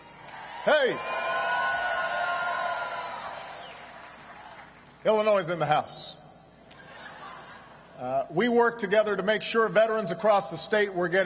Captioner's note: applause; laughter